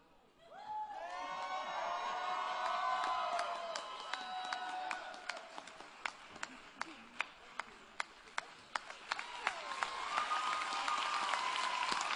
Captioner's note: applause and Cheering